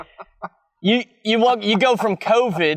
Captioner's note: chuckling